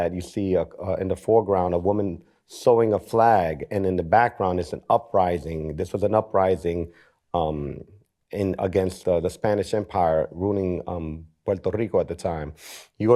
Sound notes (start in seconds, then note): none